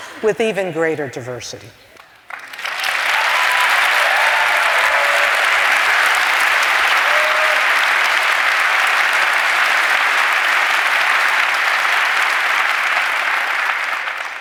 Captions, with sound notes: But [laughter] with even greater diversity. [ Applause ]